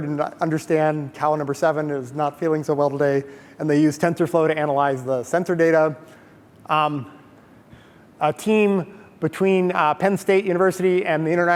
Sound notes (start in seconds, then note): none